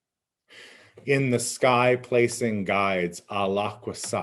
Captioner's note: speaking in Abenaki